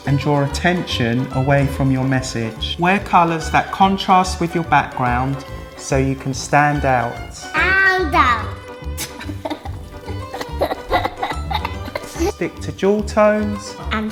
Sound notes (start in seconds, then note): 9.0 laughing